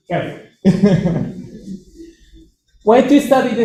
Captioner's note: chuckles